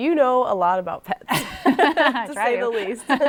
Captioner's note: laughter